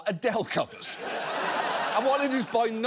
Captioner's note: audience laughs